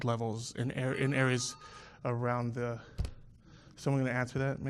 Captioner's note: phone ringing